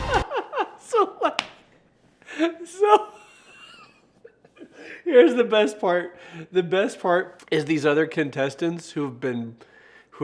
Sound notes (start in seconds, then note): 0.0 laughing